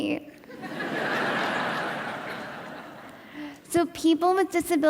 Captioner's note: audience laughing